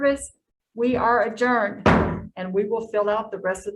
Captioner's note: gavel bangs